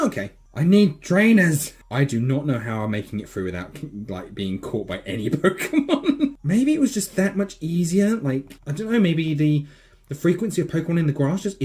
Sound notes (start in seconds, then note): 5.2 giggle